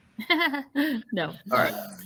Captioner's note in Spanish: giggles